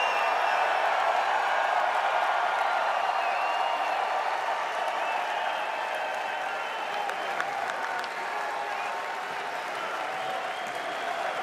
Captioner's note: cheers and applause